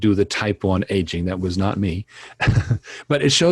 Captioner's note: laughs